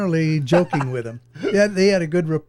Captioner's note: laughing